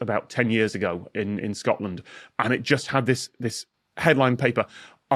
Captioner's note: none